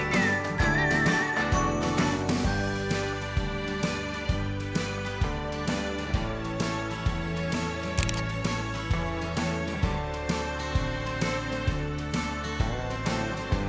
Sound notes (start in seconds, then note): 7.9 camera snapping